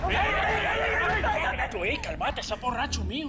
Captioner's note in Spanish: Gritos y exclamaciones